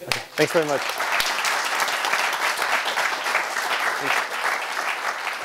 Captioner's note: applause